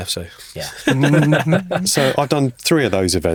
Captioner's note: podcasters chuckling